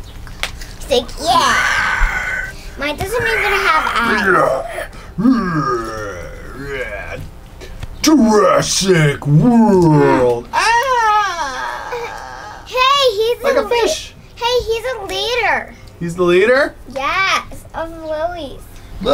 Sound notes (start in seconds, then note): 1.2 growling; 3.1 growls; 11.8 yells